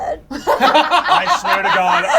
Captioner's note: laugh